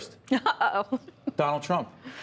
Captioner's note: laughter